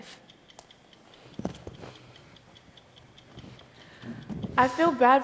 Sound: clock ticking

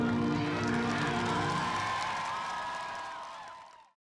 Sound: students applauding

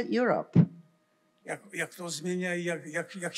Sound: foreign language

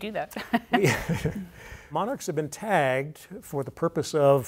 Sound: laughs

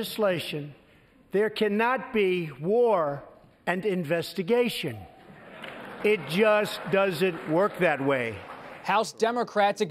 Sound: laughter

